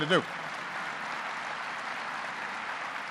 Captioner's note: applause